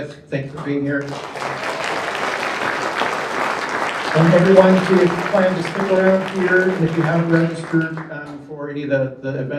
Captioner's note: applause